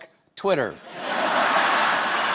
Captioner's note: laughter; cheers; applause